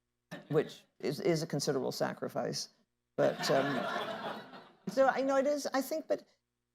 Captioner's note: laughter